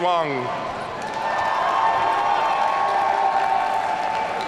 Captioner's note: audience cheering